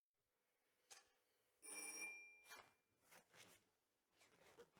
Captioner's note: doorbell